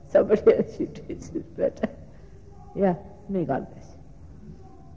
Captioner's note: laughing